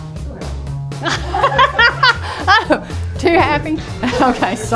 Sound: laughs

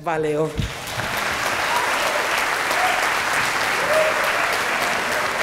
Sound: applause

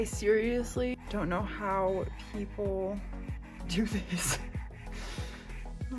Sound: laughing

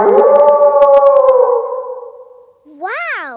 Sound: kids howling; wolf howling loudly

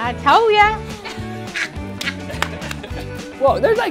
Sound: laughter

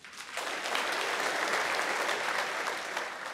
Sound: applause

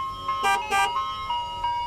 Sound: ice cream truck; beep beep

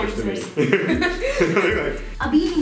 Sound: laughing

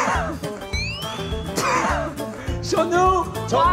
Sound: the drawing makes him sigh

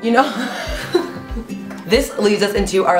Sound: laughing

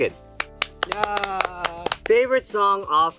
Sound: hands clap

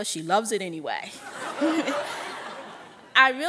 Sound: audience laughing

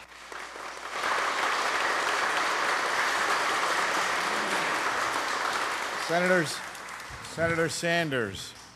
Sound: applause

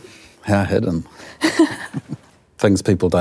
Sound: chuckle

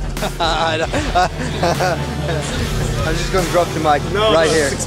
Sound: laughing

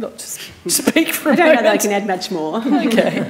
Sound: chuckles

